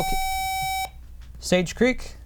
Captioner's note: buzzer